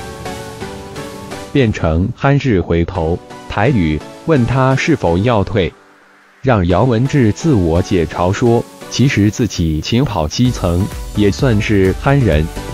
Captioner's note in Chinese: 台語